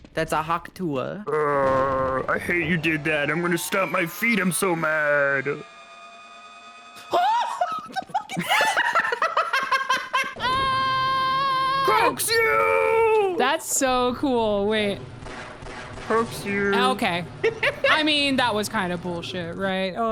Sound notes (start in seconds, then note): 7.1 laughs; 7.2 screams